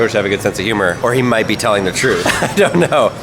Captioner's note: laughs